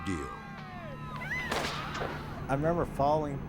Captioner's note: cord snapping